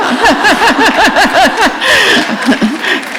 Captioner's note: laughter